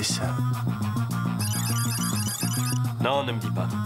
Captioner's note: computer beeping